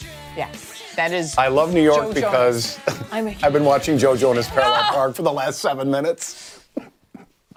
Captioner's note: laughter